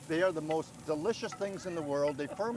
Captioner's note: grill scraping